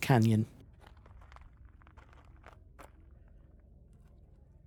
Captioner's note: sound of feet walking over gravel and otherwise silence